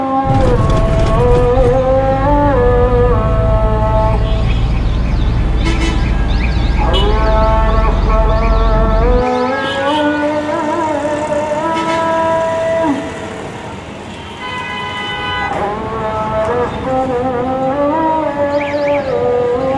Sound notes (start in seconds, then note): 0.0 engine noise; 8.6 traffic noise